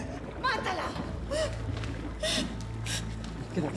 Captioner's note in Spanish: sollozos